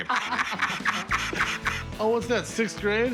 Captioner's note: laughter